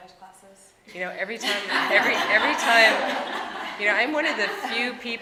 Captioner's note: audience laughing